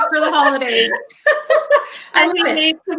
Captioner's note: laughing